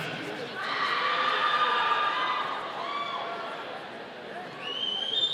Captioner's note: audience cheering